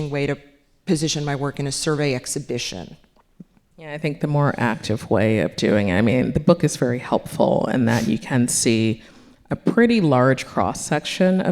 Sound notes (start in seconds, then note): none